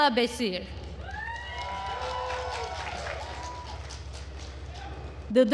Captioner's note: attendees cheering and applauding